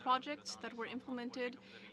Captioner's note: speaking French